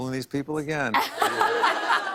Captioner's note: laughter